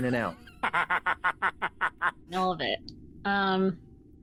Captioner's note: laughing